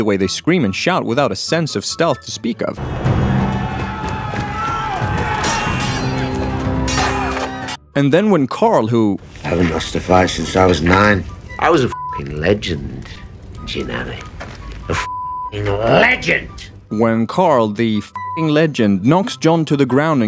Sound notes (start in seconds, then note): 5.2 screaming